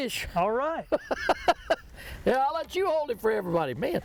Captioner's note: laughs